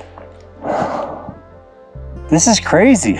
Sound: exhales heavily

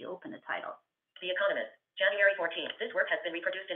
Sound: VoiceOver voice

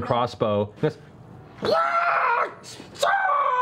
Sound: screaming

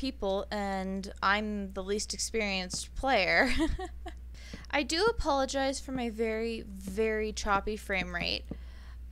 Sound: laughs

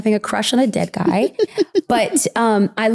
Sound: giggling

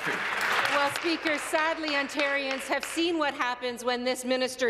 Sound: applause

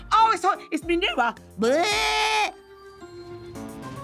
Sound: screaming

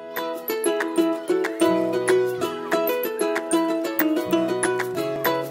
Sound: joyful music; children playing

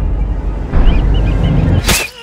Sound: whistle blowing; stabbing

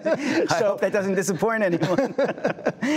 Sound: laughter

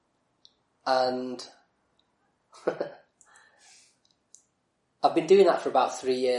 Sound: laughs

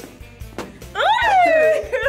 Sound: both laugh

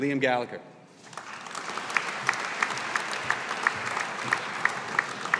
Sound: audience applauding

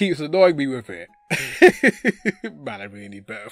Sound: laughing

